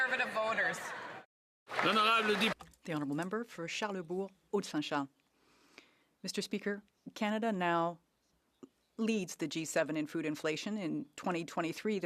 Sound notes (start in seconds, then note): 6.7 speaking French